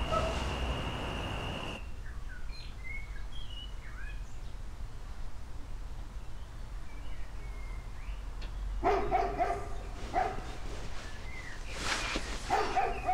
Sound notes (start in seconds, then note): 2.1 birds twittering; 8.8 dog barking